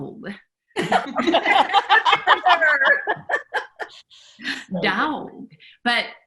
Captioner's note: women laughs